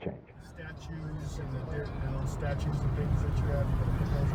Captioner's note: Marvin talking